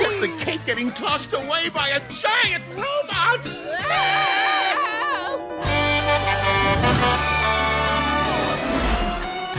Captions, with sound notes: Except the cake getting tossed away by a giant robot! [screaming] [Blaze honking]